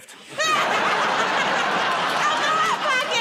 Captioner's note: laughter